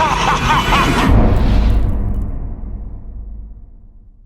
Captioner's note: Freddy laughing; impact